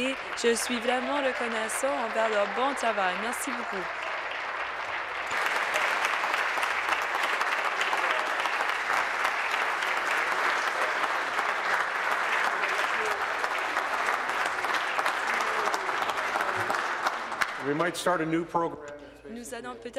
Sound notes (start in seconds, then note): 6.3 applause